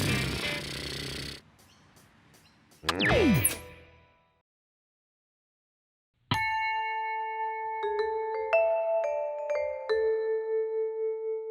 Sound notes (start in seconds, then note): 0.3 sighs and raspberries; 3.8 click